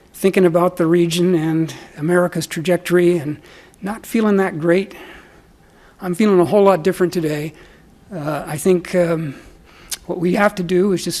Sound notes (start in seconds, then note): none